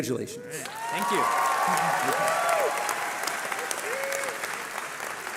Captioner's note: cheering